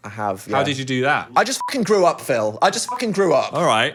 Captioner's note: beep